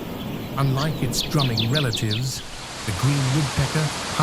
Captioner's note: birds chirping